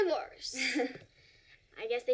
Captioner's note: laughs